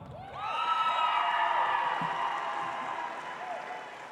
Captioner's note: audience applauds